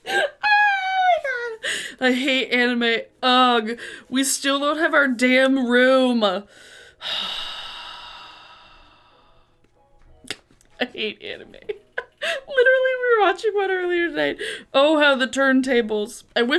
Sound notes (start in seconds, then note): 7.0 sighs